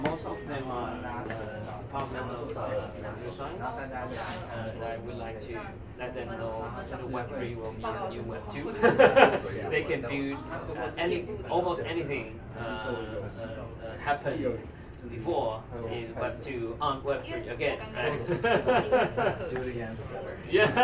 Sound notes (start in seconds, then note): 2.7 speaking in foreign language; 9.1 laughing; 18.3 laughing